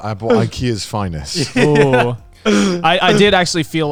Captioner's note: laughs